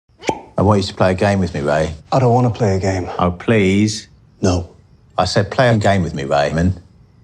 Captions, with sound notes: (cork popping) - I want you to play a game with me Ray. - I don't want to play a game. - Oh please? - No. - I said play a game with me Raymond.